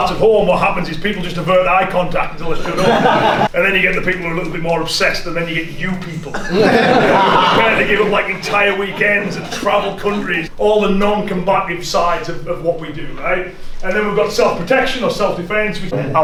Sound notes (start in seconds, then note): 6.2 everyone laughs